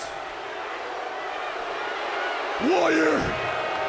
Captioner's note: crowd chatter